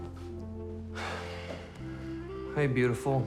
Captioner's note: nick sighs wearily